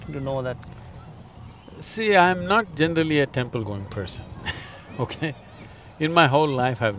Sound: laughs

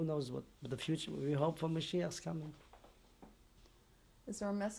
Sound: non-english

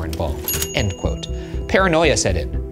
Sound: bell dings

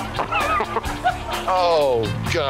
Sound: laughing

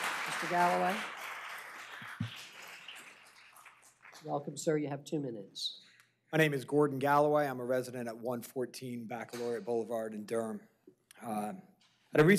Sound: applause

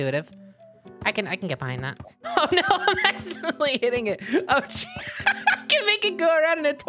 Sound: laughing

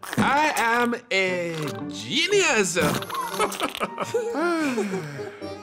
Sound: laughs; giggles

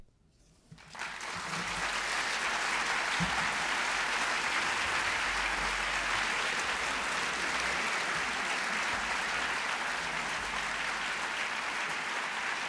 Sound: applause

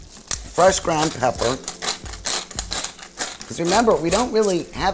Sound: pepper grinder clinking

